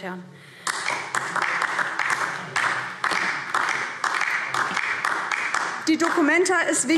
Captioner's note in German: Beifall DIE LINKE